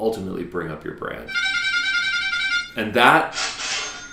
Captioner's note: bicycle horn; cha-ching